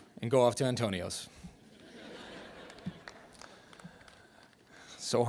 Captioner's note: laughter